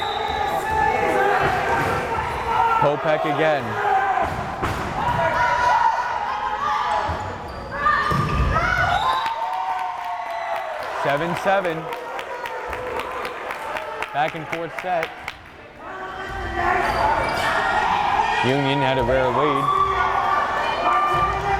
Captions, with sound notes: (whistle blares) Popek again. (crowd cheering) 7-7! Back and forth set. Union had a very early lead.